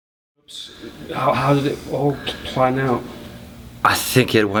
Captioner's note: voiceover